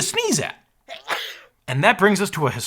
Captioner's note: person sneezing